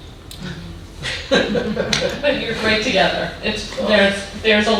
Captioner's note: man laughing